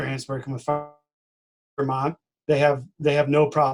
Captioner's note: distorted speaking